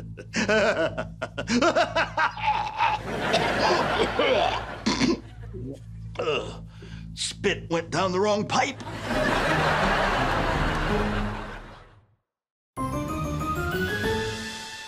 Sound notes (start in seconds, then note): 0.0 evil laughter; 3.2 choking, coughing; 6.2 snorts, gulps, sighs